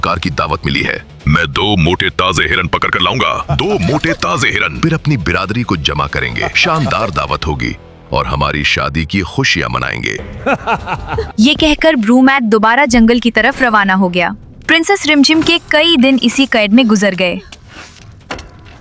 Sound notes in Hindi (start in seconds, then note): 10.3 हंसी